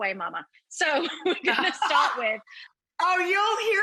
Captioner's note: laughs